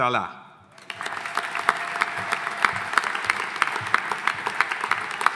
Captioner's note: audience applauding